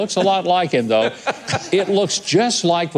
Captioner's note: laughter